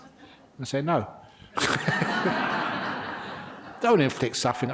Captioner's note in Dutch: lachen